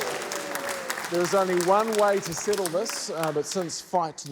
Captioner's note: cheering, applause